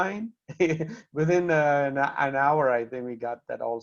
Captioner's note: laughter